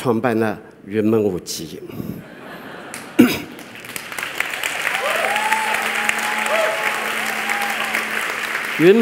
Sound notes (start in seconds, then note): 4.1 laughter; 5.1 applause